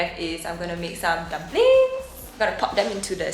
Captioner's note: falsetto